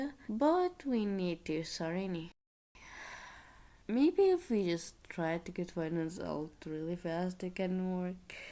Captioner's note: sigh